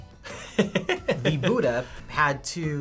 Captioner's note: laughs